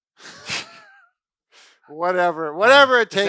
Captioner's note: both laugh